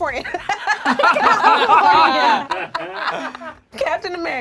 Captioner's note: group laughs